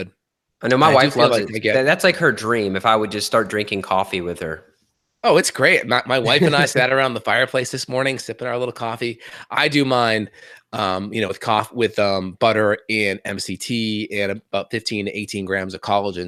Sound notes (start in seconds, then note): 6.2 laughs